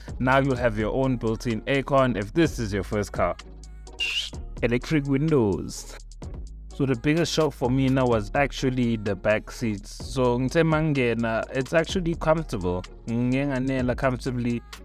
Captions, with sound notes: now you will have your own built-in Aircon if this is your first car (whistle) electric windows the biggest shock for me was the backseats they are actually comfortable I could fit inside comfortably